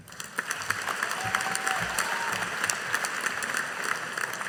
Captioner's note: audience applauding